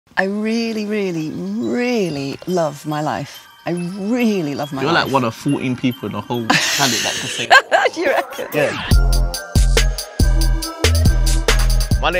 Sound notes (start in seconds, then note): 6.4 laughing; 9.0 upbeat music